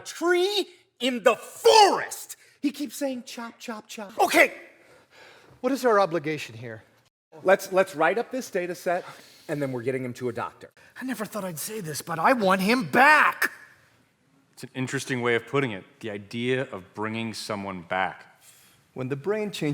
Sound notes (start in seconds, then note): none